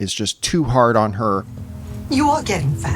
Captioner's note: soundbite of film, "everything everywhere all at once"